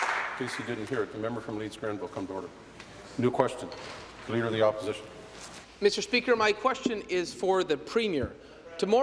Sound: applause

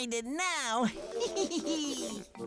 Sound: snickering

